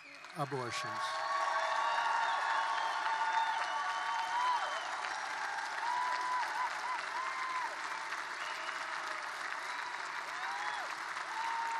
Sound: applause

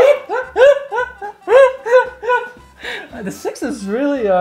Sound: laughing

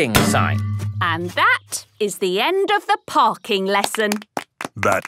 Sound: clapping

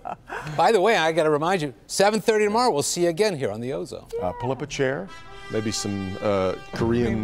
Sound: laughter

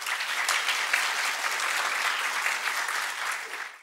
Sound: applause

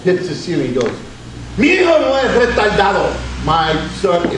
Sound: speaks Spanish

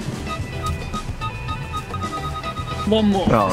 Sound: car beeping

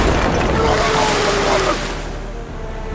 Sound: dam exploding; FishStick screaming; upbeat tense music

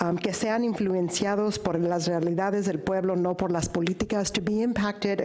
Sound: speaks in foreign language

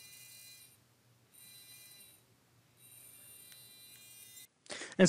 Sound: buzzing; buzzing stops; buzzing

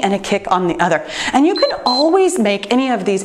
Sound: timer beeps

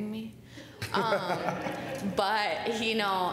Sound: laughter

